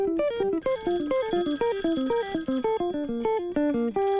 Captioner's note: phone rings